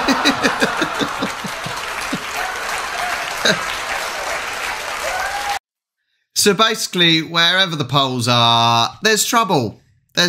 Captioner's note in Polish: Aplauz